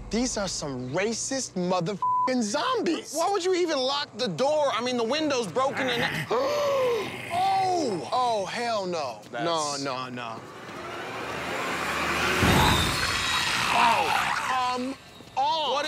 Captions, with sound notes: - These are some racist mother (beep) zombies. - Why would you even lock the door? I mean the windows broken and... (zombie snarls) (man gasps) - Oh, hell no... - That's... - No, no, no. (suspenseful music) (zombies snarling) Oh, come on!